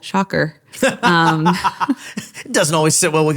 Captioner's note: laughing